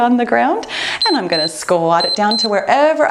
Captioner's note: timer beeps